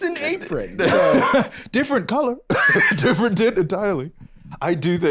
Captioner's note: laughs